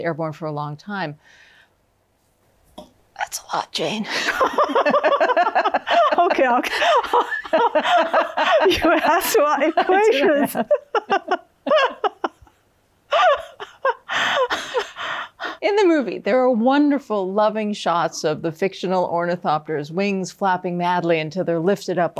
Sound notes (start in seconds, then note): 4.2 both laughing; 10.2 continues laughing; 12.0 both laughing